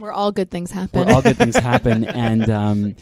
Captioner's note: laughing